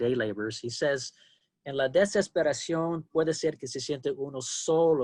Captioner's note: speaking spanish